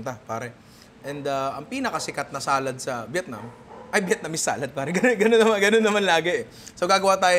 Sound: chuckles

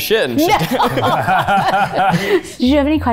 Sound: all laugh

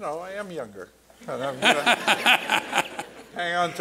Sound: laughter

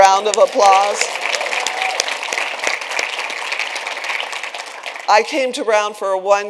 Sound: attendees applauding; attendees cheering

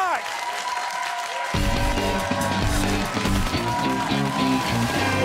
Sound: cheers and applause

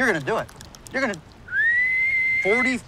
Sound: whistles

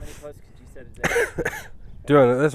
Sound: coughs

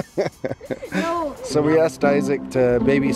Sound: laughs

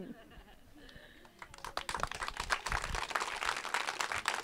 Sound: applause

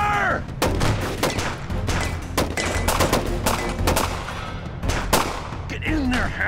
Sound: gunfire

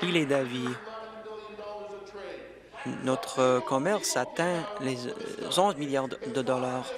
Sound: applause

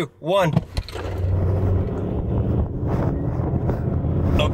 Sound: car engine revs

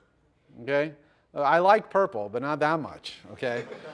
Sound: laughter

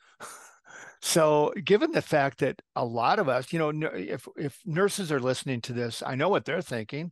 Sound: laugh

